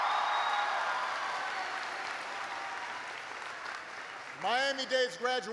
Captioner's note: applause